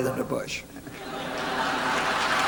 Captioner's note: laughter; applause